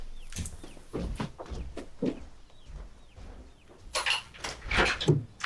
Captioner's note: feet clacks; door clicks